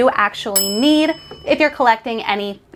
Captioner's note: bell dings